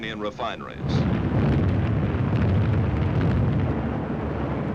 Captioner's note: bombs booming